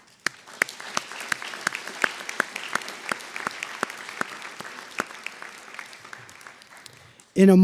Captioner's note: applause